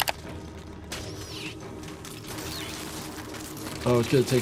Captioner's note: tentacles screech